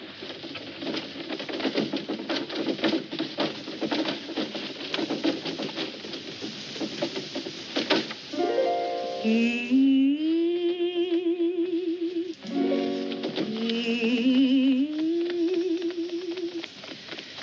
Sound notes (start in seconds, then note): 9.1 humming